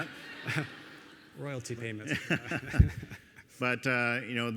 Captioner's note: audience laughing; laughing